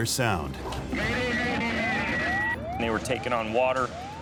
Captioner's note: static